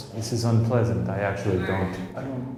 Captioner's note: automated voice speaks